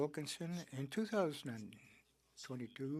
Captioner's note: speaking French